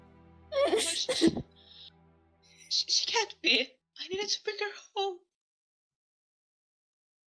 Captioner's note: DAMIEN sobs